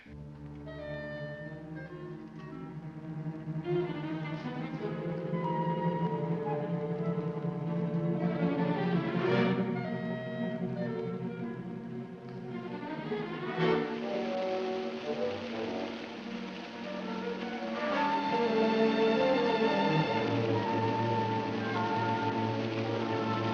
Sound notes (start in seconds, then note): 0.1 dramatic music; 13.6 running water; 17.8 dramatic music